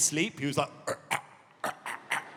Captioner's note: choking